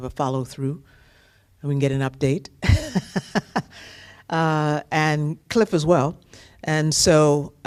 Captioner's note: laughter